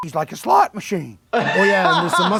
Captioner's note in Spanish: se ríe